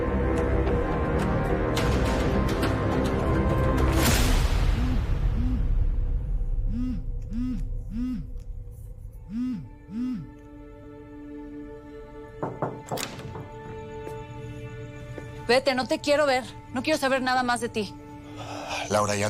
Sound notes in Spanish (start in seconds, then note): 4.6 Vibra el celular